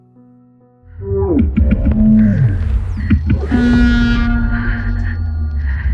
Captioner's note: alien sounds; breathing heavily